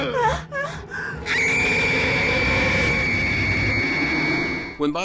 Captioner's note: both grunting and gasping; screaming